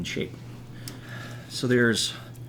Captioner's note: quiet snipping